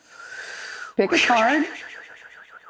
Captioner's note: sucking air; blowing out